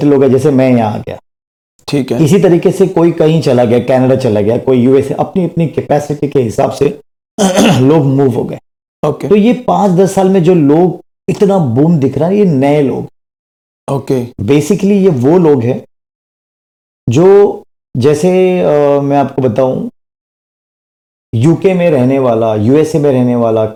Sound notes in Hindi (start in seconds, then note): 7.4 गला साफ़ करने की आवाज़